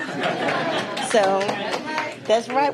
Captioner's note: applause